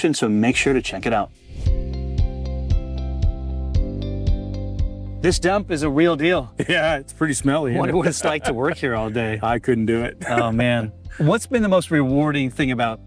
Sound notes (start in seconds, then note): 1.4 soft upbeat music; 10.2 laughs